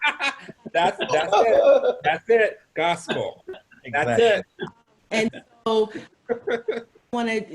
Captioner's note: laughs